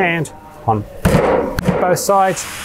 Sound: banging

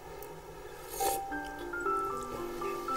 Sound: slurp

